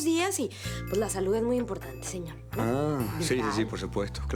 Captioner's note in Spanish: none